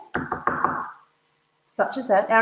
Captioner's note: banging